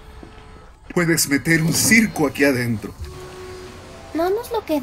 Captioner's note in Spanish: puerta abriendose